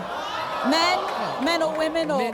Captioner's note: crowd jeering